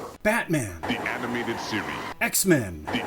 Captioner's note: deep announcer voice